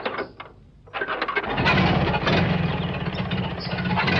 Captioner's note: engine starts